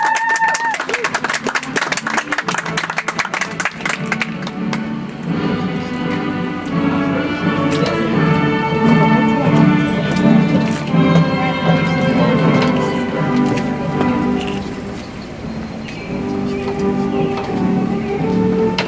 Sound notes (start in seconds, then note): 3.1 audience applauds; 7.5 soft music